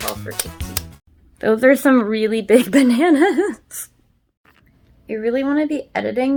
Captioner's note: laughs